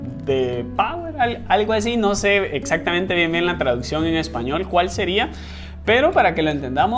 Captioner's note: translating in spanish